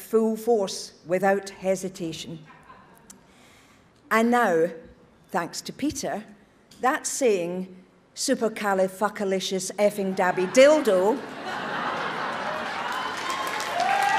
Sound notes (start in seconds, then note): 11.5 audience cheers